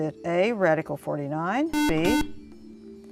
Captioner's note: buzzer